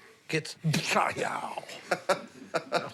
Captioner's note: laughs